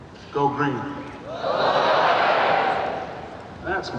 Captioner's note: crowd cheers